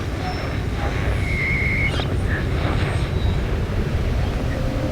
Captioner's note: wind whooshing